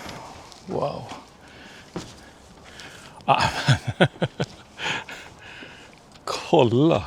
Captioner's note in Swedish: skratt